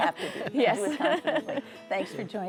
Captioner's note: chuckles